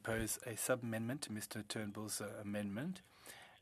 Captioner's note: speaking French